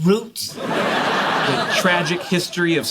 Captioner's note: laughter